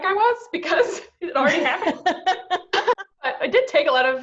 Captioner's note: laughs